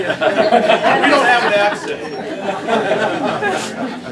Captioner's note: laughter